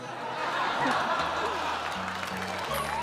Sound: all laughing

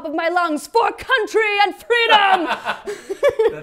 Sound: laughs

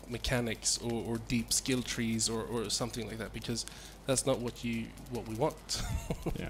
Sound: laughs

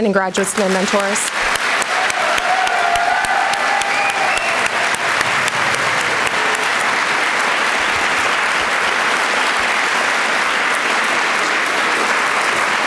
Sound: applause

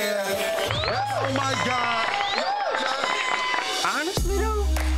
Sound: applause

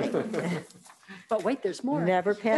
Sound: all laughing

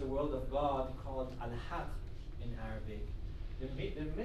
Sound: speaking arabic

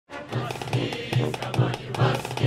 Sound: chanting

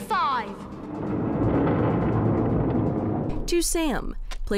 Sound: stone grinding

